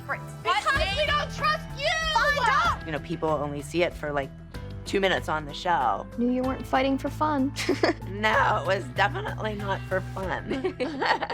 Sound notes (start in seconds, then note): 7.5 laughs; 10.6 all laughs